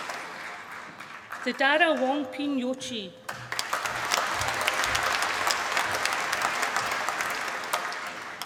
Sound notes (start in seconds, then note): 3.2 applause